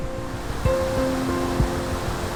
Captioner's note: water falling